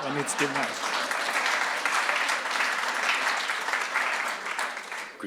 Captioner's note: audience laughs and claps